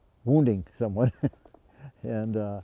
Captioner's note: chuckles